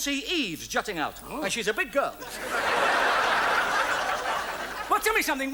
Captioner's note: audience laughs